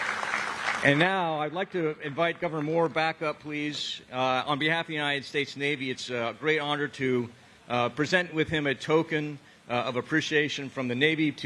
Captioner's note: applause